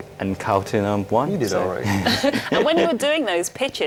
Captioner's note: laughs